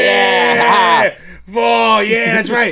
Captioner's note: laughing